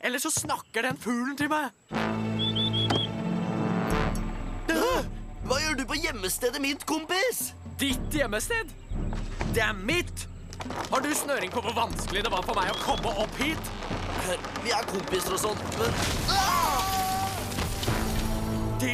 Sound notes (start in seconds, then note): 2.3 whistling; 4.1 both gasp; 9.9 creaking